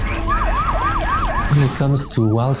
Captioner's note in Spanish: sirenas sonando